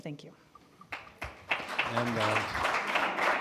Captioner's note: applause